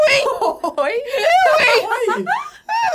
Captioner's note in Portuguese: risadas